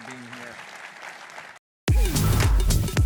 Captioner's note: applause